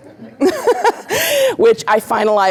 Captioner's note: laughter